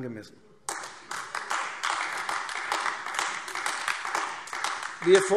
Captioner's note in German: Beifall AfD